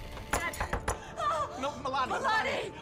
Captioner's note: gasps